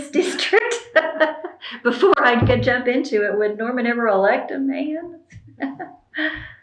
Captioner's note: laughs